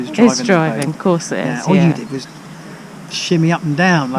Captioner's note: laughs again